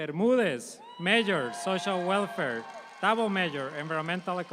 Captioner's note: audience applauds